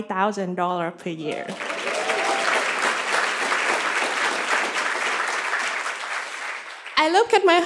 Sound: cheers and applause

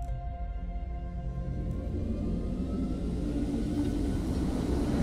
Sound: ship whirring

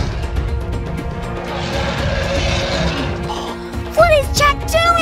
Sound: triceratops roars

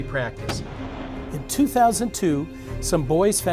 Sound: cannon fires

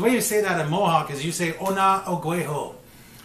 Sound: speaking Mohawk

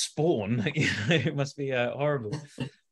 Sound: laughs

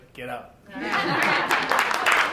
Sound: laugher; applause

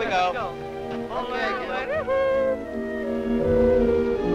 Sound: people chattering

